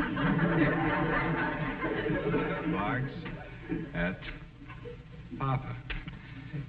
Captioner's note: audience snickering